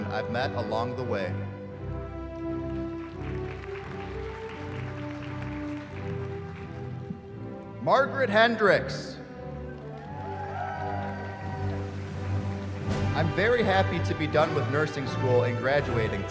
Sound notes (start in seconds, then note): 2.1 applause; 9.8 cheering